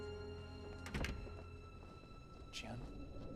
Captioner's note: door closes